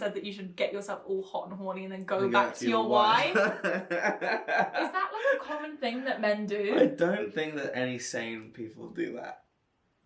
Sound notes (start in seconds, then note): 3.1 laughing